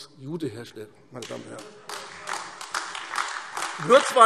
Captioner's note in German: Beifall AfD - Heiterkeit